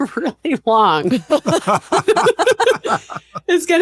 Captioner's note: laughter